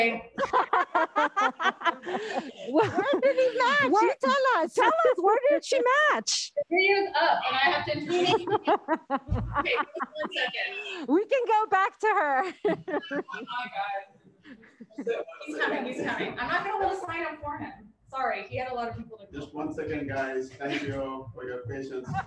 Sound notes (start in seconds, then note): 0.3 laughing; 7.8 laughing; 12.4 laughing